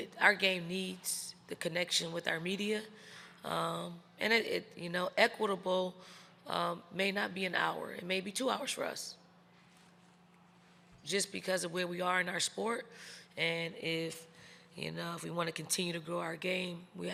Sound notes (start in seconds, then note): none